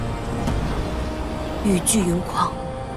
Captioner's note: the storm and rain rage